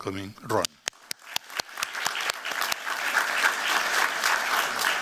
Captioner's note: applause